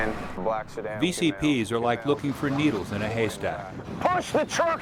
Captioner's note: voiceover